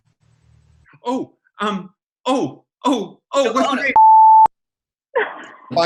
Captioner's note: timer beeps